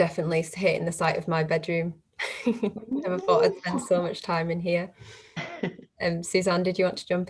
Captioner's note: laughs